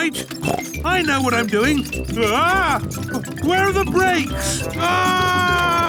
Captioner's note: scream